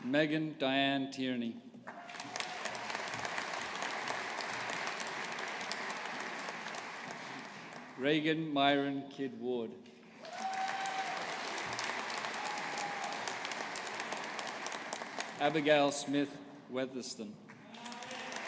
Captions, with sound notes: Megan Diane Tierney. (AUDIENCE APPLAUDING) Regan Mairenn Kidd Ward. (AUDIENCE APPLAUDING) Abigail Smith Weatherston.